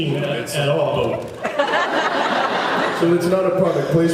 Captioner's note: laughs